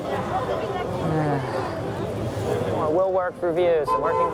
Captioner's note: sighing